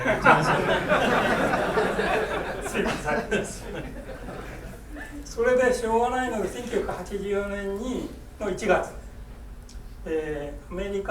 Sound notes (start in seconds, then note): 0.0 laughing; 2.8 speaking in foreign language